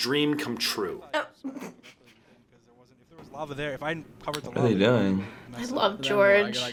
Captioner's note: laughs